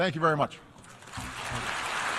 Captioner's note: applause